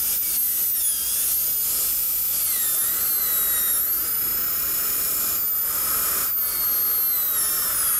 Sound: drilling sound

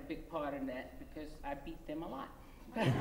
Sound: laughter

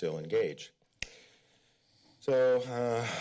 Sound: smacks lips; sighs

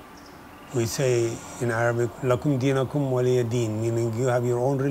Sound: speaks Arabic

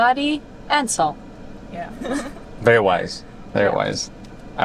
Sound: laughing

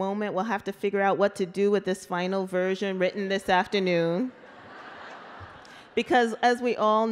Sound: laughter

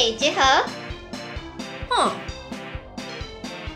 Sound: hmmm!!

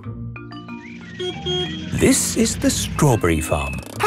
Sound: beeps

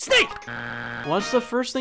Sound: buzzer beeps

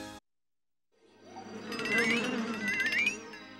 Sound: buzzing and rattling

